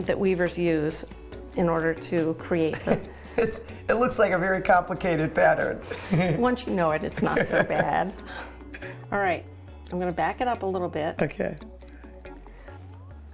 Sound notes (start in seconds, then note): 2.7 chuckles; 7.1 laughs